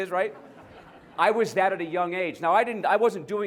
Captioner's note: laughter